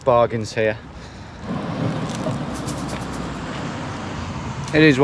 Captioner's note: light traffic